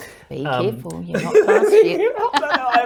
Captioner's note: laughs